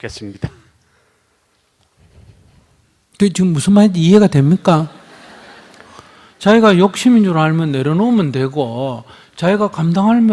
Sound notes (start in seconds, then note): 4.7 audience Laughter